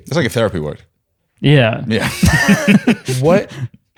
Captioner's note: laughs